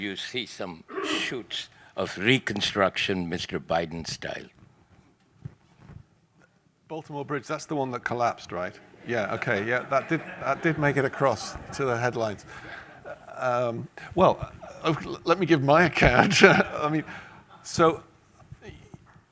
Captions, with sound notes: or do you see some shoots of reconstruction Mr. Biden style? - Baltimore Bridge. That's the one that collapsed, right? Yeah, Okay. (audience laughing) That did make it across to the headlines. Well, let me give my account, (laughs) I mean, so,